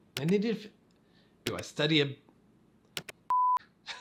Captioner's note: beep